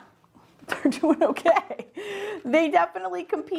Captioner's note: laughs